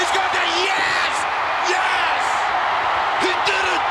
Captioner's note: audience cheers